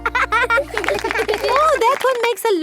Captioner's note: laughing